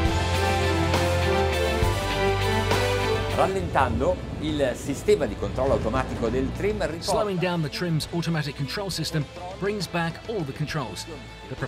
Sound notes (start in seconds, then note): 0.0 upbeat music; 3.8 speaking Italian